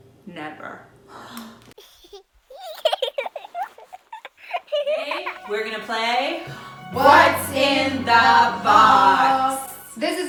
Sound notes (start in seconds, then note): 1.8 baby laughing